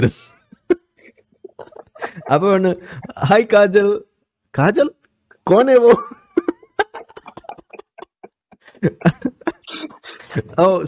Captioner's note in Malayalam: പൊട്ടിച്ചിരി